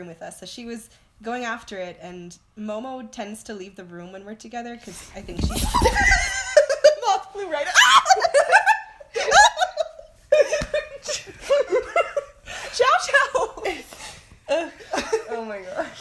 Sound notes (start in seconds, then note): 7.7 screams; 9.1 laughing; 10.4 screams, yells, laughter